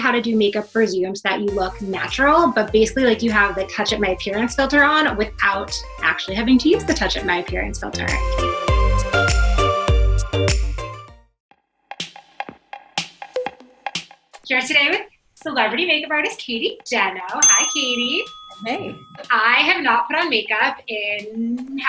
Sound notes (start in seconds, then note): 8.9 upbeat music; 17.4 bell dings